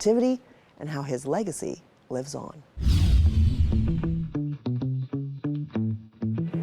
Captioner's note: screen whooshing